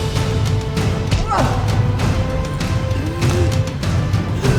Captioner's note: suspenseful orchestral music continues; Charly grunting; Charly gasping